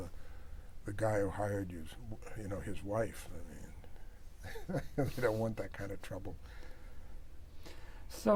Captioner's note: laughs